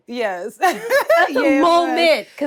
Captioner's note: laughs